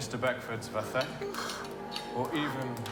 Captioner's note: Percy yawns